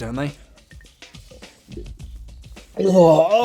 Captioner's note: gulps